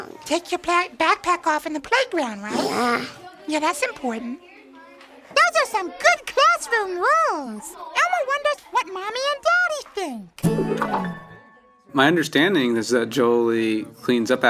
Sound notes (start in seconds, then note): 3.2 group talking; 10.4 upbeat music